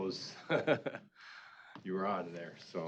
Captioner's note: laughing